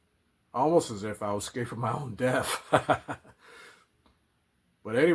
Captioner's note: laughs